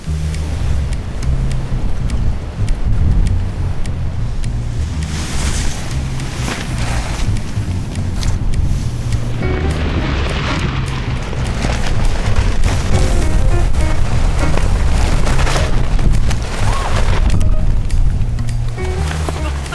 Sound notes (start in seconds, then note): 16.6 yelp; 19.5 chuckles